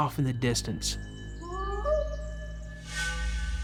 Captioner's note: howling